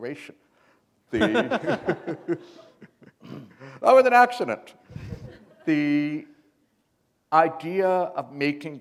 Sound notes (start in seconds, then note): 1.1 laughter